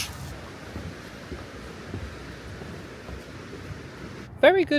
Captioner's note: water flowing